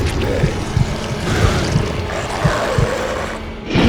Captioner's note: monster growling; monster roaring